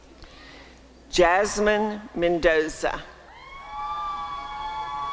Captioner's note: applause and cheering